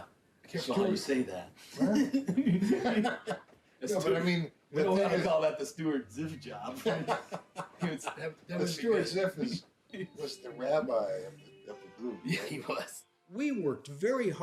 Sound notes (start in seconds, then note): 1.9 both laughing